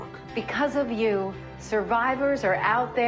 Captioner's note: speaking in spanish